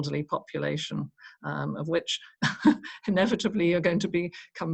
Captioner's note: chuckles